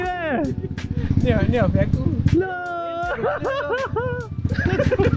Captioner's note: laugh